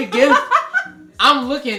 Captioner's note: laughs